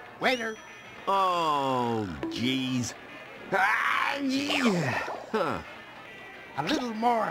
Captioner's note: sneezes